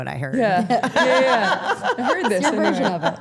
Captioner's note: Steph laughing